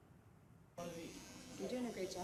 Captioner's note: razor buzzing